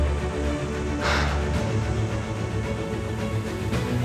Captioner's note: he sighs